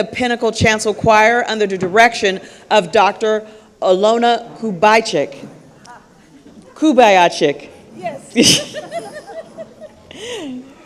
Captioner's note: laughter